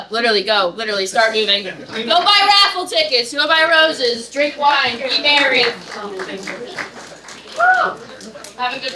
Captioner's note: audience laughter; applause